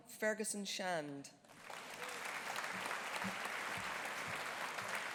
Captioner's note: audience applauding